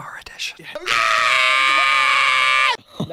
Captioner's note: whispering; screams